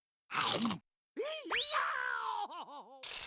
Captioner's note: screaming